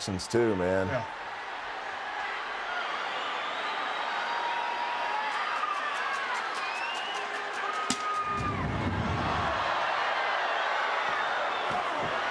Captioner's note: applause